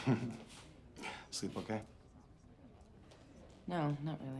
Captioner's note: chuckles